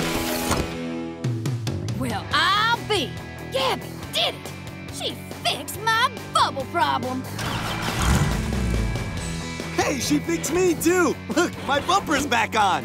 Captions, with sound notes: Well, I'll be! Gabby did it! She fixed my bubble problem! [start-up noise, revving] Hey, she fixed me, too! Look, my bumper's back on!